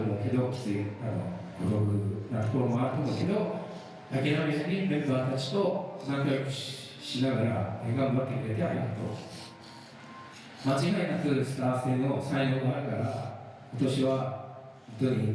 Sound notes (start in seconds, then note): 1.0 speaking foreign language